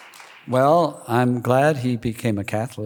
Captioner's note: applause